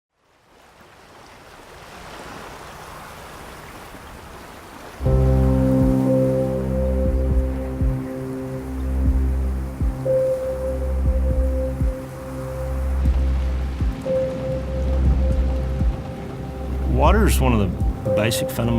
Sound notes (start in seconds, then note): 1.3 water splashing; 5.2 dramatic music